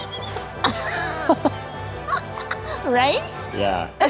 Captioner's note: laughs